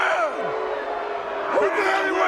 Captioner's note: audience jeers